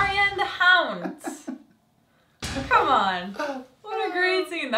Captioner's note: laugh